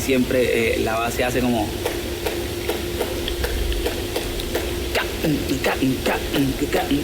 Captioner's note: clapping a rhythm